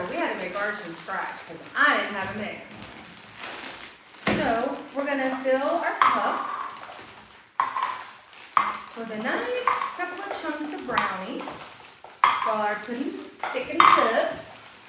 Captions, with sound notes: We had to make ours from scratch because I didn’t have a mix. So we are going to fill our cups [tapping of cups being set on table] [tapping continues] with a nice couple of chunks of brownie. [tapping continues] While our pudding thickens up.